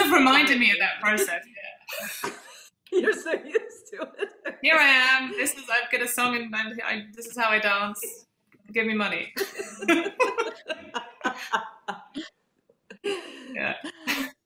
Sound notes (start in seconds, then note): 2.9 laughs; 9.4 all laughing